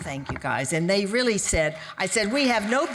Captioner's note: audience applauding